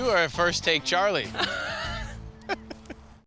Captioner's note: l lauaughghs s